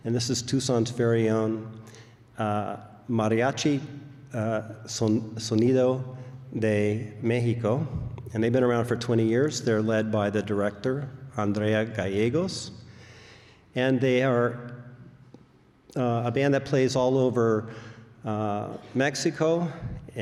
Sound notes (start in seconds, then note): none